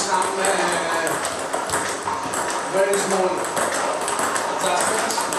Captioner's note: ball ping pong hitting continues